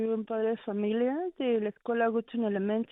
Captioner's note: speaking Spanish